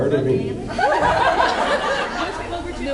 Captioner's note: laughing; laughs